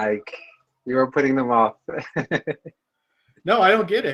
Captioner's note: laughs